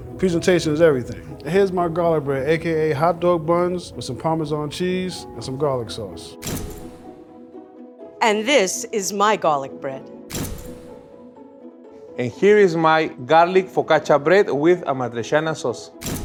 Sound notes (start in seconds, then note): 6.5 camera shutter clicks; 10.2 camera shutter clicks; 16.0 camera shutter clicks